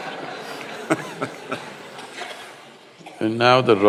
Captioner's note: laughter